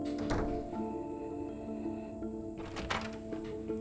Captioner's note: wheezing softly; door opens